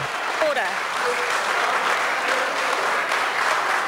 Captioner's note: members applaud